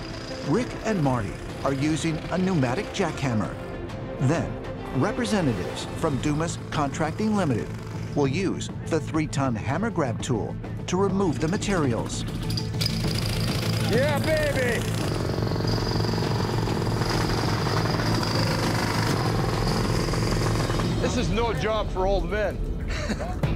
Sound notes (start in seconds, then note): 12.0 jackhammer whirring; 22.8 chuckles